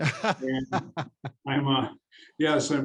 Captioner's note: laughing